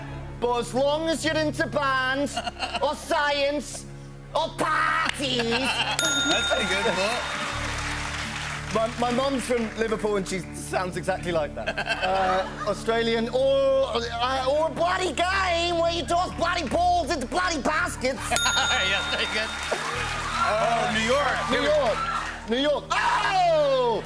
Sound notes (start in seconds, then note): 6.0 ding; 8.5 normal voice; 13.1 Australian accent; 18.4 ding; 22.1 new York accent